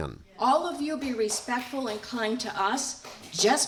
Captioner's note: through translator